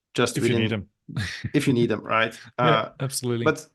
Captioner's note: chuckling